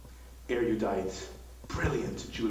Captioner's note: computerized Voiceover